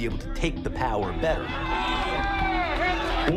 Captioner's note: crowd shouting